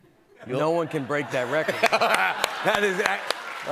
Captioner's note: laughs